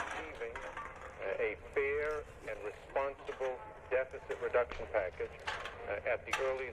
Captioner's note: man, on radio